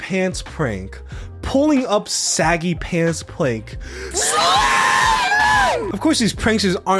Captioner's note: screaming